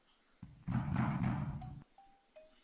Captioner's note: running footsteps; banging